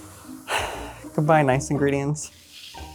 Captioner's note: sighs